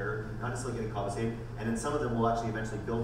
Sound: none

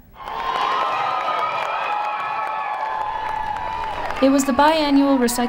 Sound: cheering

